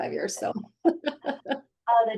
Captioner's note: laughing